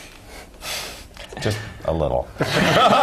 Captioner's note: laugh